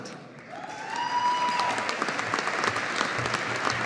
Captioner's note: audience applauding